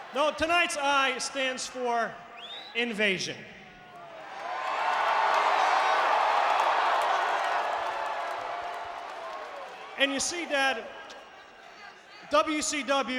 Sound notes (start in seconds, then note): 4.0 audience cheering